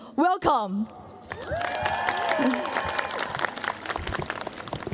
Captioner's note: cheers, applause